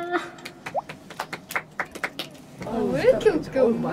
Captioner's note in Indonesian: Tepuk tangan